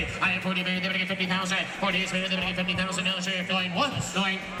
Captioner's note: auctioneer chant